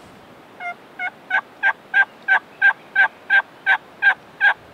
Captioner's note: calling continues